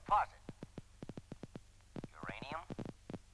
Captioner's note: clicking sound